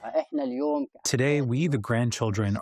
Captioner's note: through translator